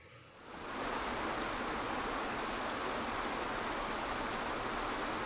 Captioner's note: waterfall water gushing